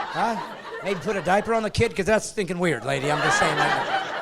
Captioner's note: laughing